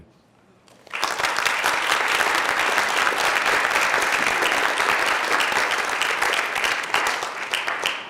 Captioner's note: applause